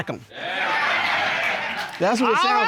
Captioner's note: audience exclaims